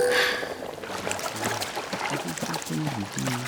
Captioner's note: sighs; water rushing; dad humming